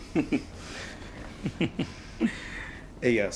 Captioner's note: chuckling